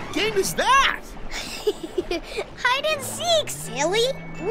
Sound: giggles

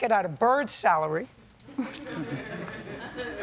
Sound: laughter

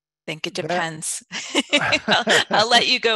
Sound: laughs

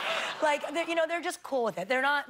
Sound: laughter

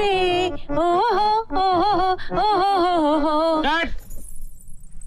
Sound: humming

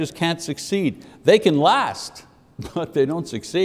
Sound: laughs

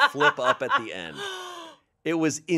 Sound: gasps

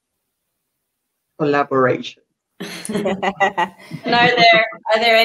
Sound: laughter

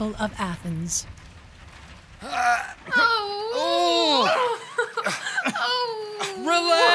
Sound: Sound of fighting and wails from Hermia

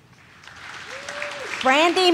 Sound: audience claps

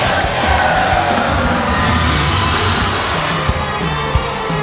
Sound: music and applause

